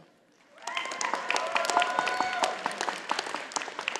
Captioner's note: audience applauding